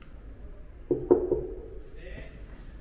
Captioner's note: Knock